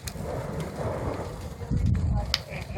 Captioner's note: fire roaring and crackling, people talking on radios